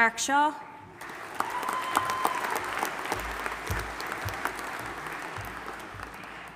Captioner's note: audience applauding and cheering